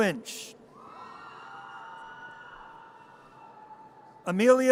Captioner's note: audience cheers